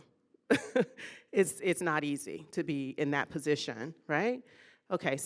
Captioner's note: laughing